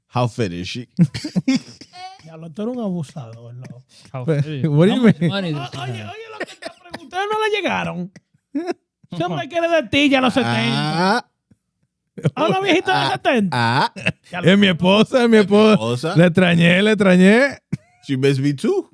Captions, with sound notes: How fit is she? (Laughing) (Speaking In Foreign Language) She best be two.